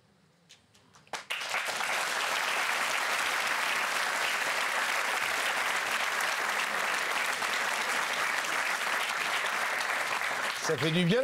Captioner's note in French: applaudissements